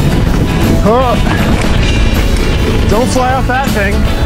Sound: grunts

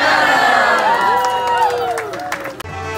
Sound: cheering

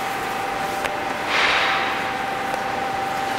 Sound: high-pitched machine whine

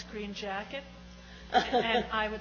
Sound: laughs

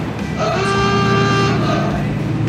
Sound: radio plays; old fashioned horn; car engine

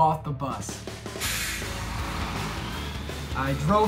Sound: upbeat music; diesel engine rumbling

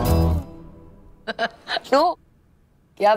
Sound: Sheena laughs

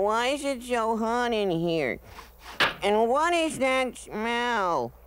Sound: sniffs

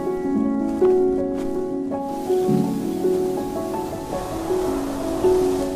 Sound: footsteps pattering; wind blowing

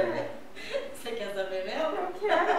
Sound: laughter

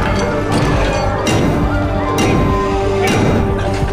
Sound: thudding

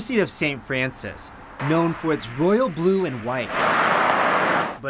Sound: cars driving by campus

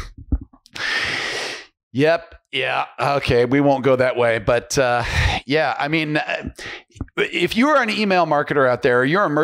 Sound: laughs

